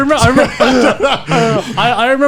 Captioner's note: laughing